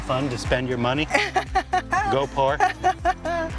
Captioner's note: laughs